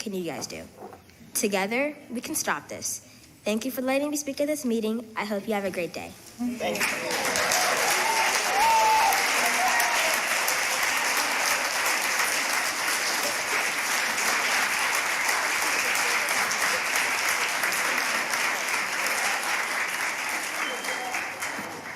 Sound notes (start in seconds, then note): 6.7 applause